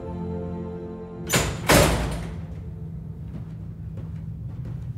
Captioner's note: door clicking